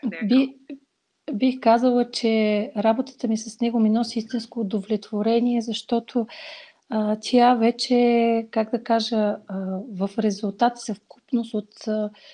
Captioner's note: foreign Language followed by English Interpreter